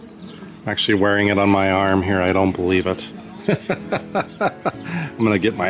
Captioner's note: laughter